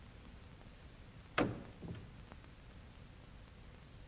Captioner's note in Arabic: يغلق الباب